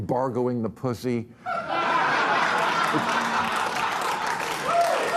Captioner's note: audience laughing, cheering, applauding